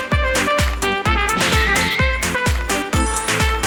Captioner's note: hurray!!!